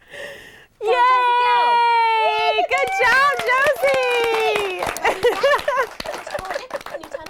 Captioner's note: clapping and laughter